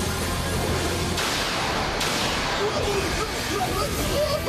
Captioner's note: groaning